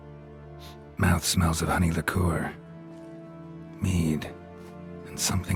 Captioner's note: sniff